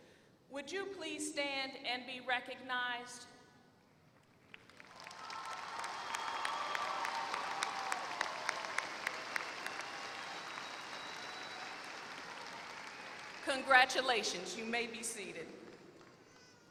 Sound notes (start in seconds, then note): 4.3 applause